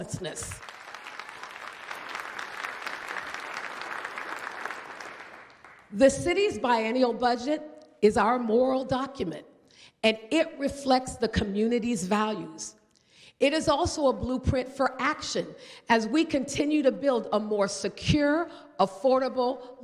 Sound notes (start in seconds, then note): 5.3 applause